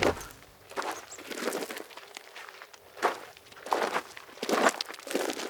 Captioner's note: footsteps crunching